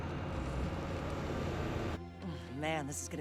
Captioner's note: truck rumbles; tense music